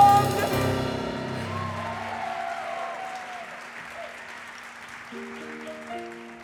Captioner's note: audience applause